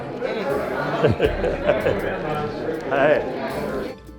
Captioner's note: instinct chatter